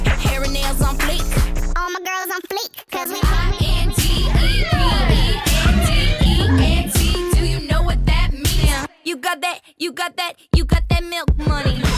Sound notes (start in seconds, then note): 4.4 cheering